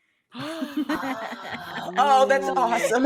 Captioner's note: giggling